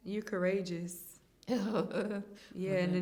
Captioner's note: chuckles